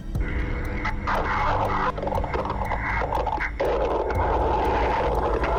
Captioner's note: static, muffled crashing